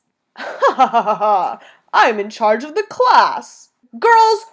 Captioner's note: laughing